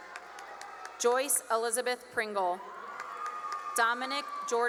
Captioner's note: cheering and applause